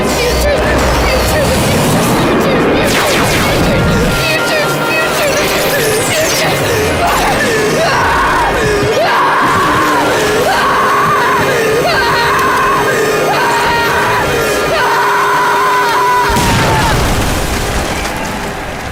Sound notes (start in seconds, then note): 7.0 screaming